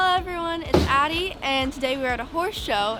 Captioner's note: door shutting